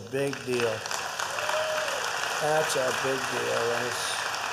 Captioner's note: applause